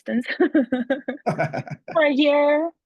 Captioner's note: laughter